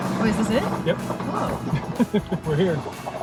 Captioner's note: laughs